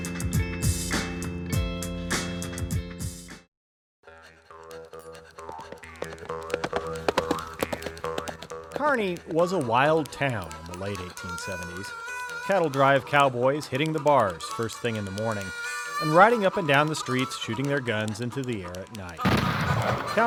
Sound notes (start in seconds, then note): 0.0 upbeat music; 5.3 horse hooves galloping; 5.8 twangy country music; 19.2 gunshot